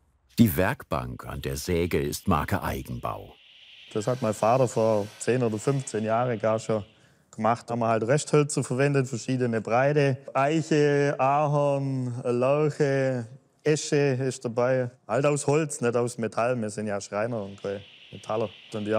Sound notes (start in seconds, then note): none